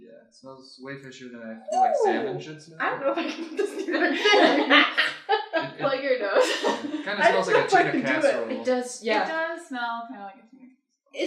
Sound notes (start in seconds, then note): 3.2 laughter; 6.7 laughs